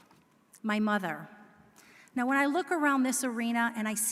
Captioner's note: none